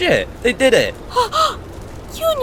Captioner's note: gasps